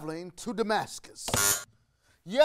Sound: buzzer rings

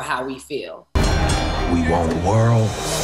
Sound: bell

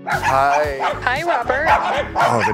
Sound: dogs barking

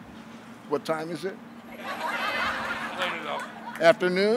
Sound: laughing

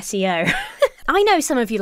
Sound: giggles

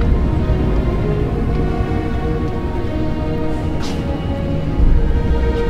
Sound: distant low train echos in tunnel

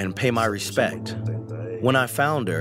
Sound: through translator

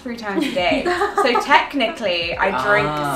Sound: laughing

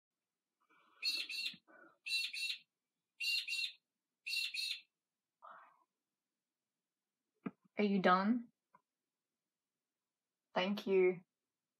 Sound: bird squawking

